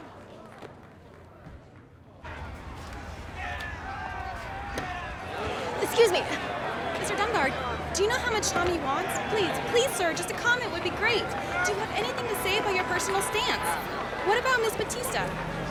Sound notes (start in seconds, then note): 3.0 disgruntled crowd shouting